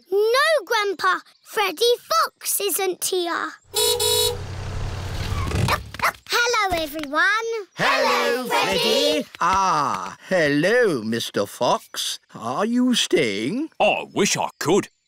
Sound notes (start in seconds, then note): 3.7 horn honks; 3.7 freddy barks